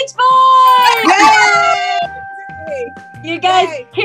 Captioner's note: bell dings; women cheer